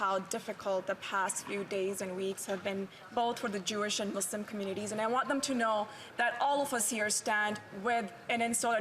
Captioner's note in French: voix de l'interprète